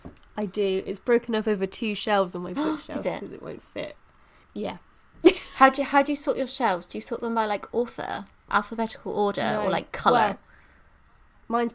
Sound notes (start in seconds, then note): 3.1 gasps; 3.9 quietly